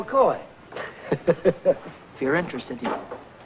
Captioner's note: happy chuckling